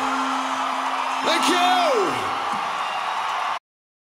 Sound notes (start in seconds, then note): 0.0 crowd cheering